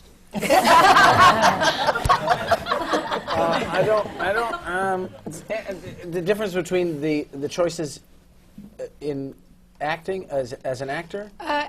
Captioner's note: laughter